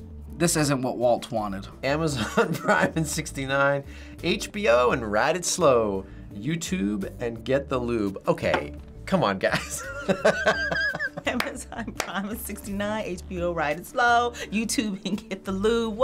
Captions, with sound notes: this isn't what Walt wanted. - "Amazon Prime and 69. HBO and ride it slow. YouTube and get the lube." Okay. Come on, guys. (laughs) - (claps) "Amazon Prime and 69. HBO, ride it slow. YouTube and get the lube."